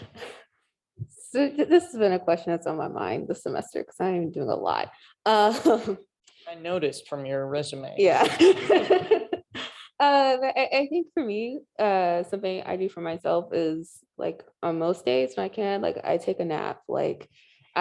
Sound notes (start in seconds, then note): 8.2 laughing